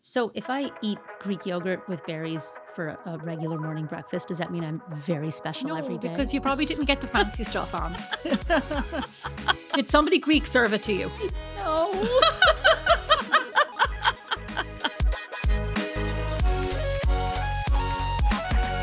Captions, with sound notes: So if I eat Greek yogurt with berries for a regular morning breakfast, does that mean I'm very special every day? No, because you probably didn't get the fancy stuff on. (laughing) Did somebody Greek serve it to you? No. (laughing) (upbeat music)